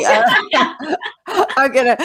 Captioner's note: all laugh